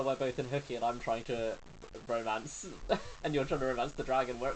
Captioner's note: laughs